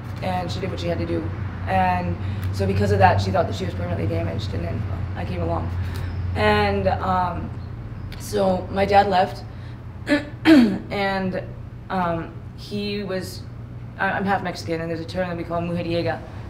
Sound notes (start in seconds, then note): 10.0 clears throat her